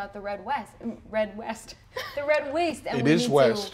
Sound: laughs

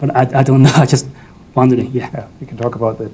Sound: laughs

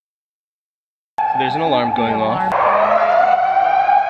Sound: alarm sounds

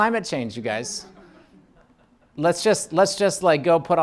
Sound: laughing

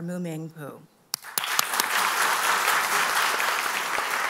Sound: applause

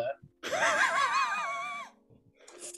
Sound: sniggering

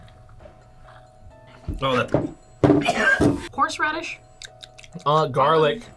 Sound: gags

